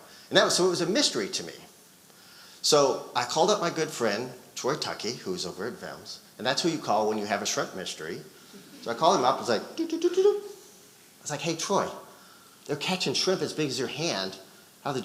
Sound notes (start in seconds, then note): 11.0 vocalizes